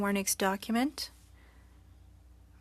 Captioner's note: speaking French